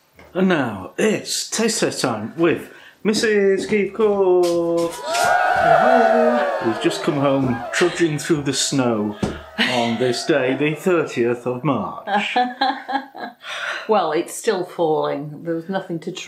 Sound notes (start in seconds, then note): 4.8 cheerin; 11.9 laffin